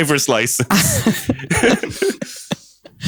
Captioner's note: laughter